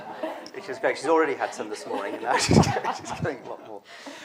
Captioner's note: laughter